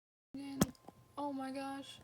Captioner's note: thud